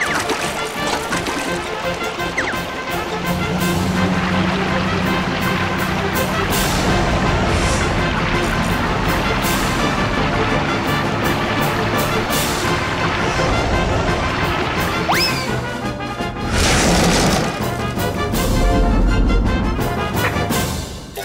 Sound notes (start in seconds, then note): 0.2 splashing; 3.8 engine roaring; 16.4 crash